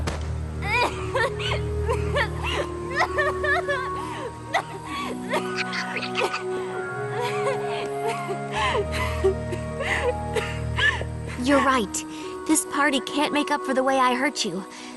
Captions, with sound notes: [sobbing] [whispering] You're right; this party can't make up for the way I hurt you.